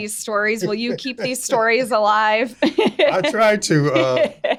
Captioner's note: laughing